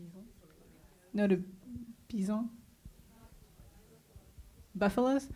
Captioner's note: speaking French